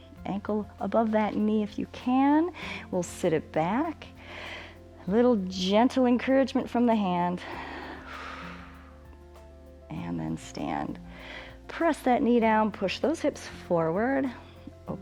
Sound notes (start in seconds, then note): 7.4 exhales